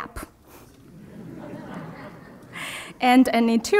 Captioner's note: crowd laughs